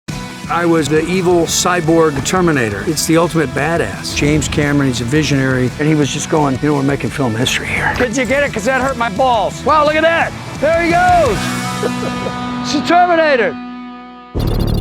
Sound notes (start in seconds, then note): 0.4 upbeat music; 11.7 laughing; 11.8 upbeat music; 14.3 dramatic music